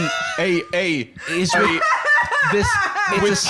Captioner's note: cry-laughing